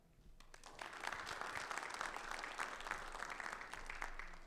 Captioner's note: audience clapping